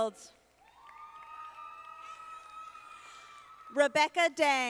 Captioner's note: audience applauding